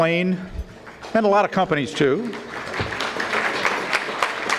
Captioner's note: audience clapping